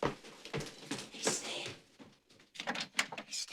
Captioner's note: whispers